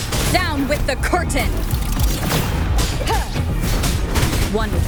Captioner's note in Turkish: Çatışma sesleri